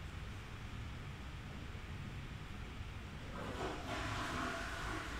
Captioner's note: flush